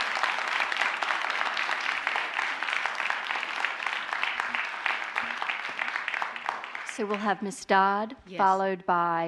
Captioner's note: applause